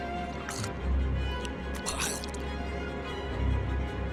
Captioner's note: gurgling